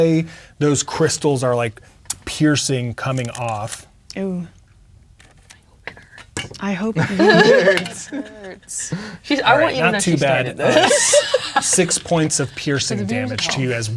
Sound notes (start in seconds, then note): 5.2 whispers; 12.9 speaking quietly